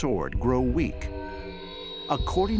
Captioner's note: warped sound